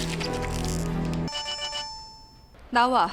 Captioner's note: rrrrring